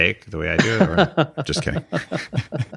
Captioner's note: laughs